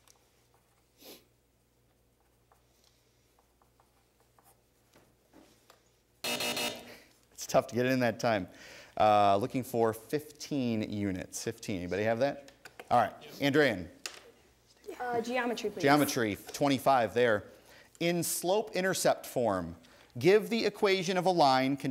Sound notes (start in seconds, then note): 6.2 buzzing